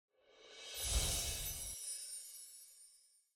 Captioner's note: chimes tinkling